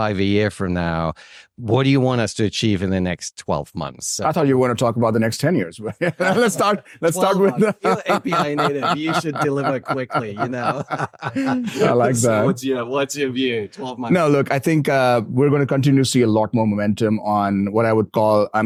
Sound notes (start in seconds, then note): 5.8 all laugh; 7.2 laughs; 10.9 all laughing